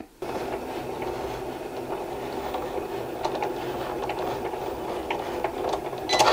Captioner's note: machine whirring and beeping